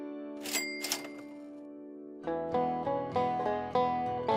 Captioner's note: cash register bell rings